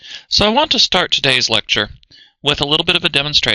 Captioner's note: voiceover